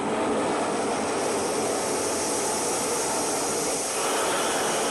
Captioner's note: air hisses